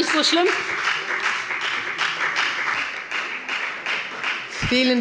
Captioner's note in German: Beifall bei der FDP